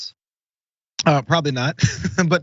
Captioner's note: laugh